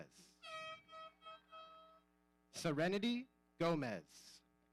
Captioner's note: horn blowing